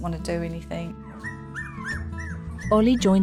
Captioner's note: puppies squeal